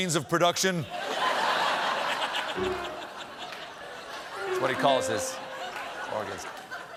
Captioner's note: laughter